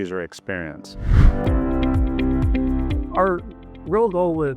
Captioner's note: air whooshes; upbeat music